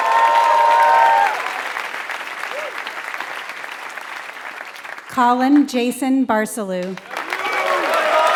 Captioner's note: applause